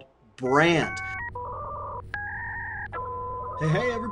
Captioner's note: dial-up internet tone